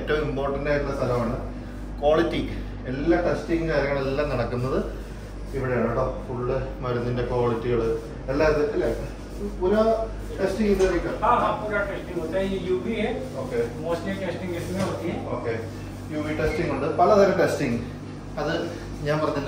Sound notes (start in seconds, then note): 9.6 conversation in Hindi